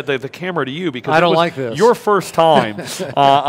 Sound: laughing

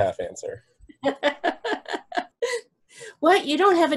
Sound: laughter

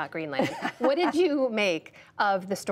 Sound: laughter

